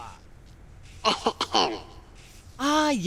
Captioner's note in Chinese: 清喉咙